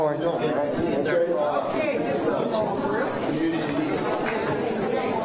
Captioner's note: applause